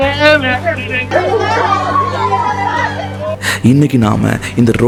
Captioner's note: victims crying